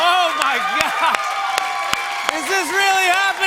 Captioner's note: cheers and applause